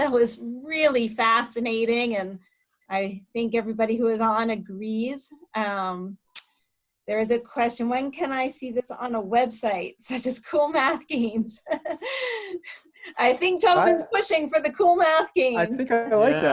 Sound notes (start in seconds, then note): 13.7 laughs